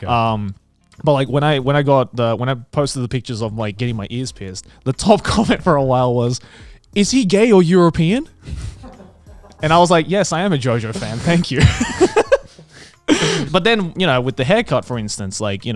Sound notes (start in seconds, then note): 8.6 crew member laughing; 10.9 all laughing